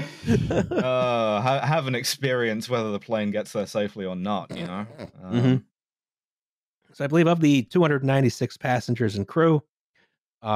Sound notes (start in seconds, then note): 0.0 all laughing; 0.0 laughs; 4.6 someone snort-laughing quietly